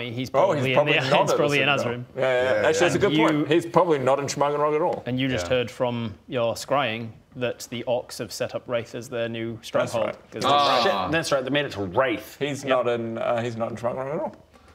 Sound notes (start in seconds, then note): none